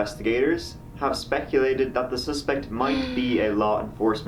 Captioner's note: gasps